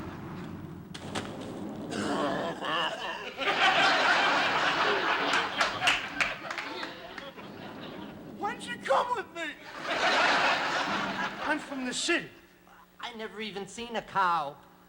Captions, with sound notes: [ Wheezes ] [ Laughter ] Why didn't you come with me? [ Laughter ] I'm from the city. I never even seen a cow.